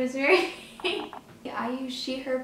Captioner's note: laughs